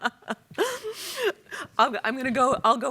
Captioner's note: everyone laughs